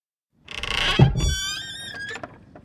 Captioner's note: lid creaks